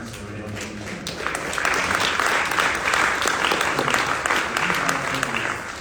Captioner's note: audience applauds